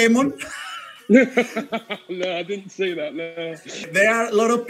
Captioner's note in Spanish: Risas